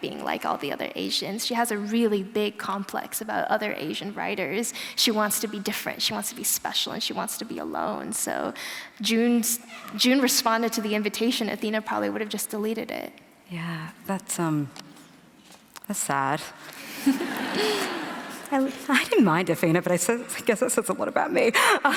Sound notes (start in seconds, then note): 16.8 laughter